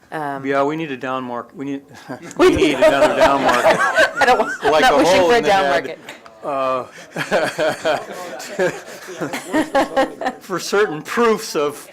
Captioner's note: laughter